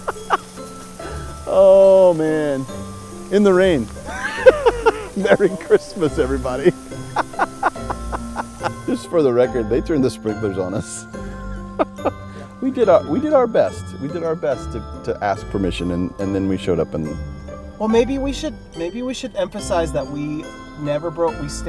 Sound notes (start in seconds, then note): 4.0 laughing